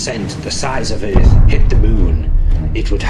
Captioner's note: canon firing